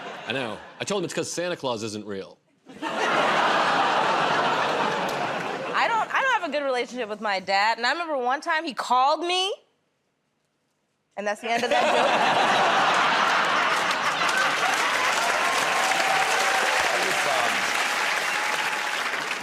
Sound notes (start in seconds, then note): 2.6 laughter; 11.4 laughter; 15.4 cheers and applause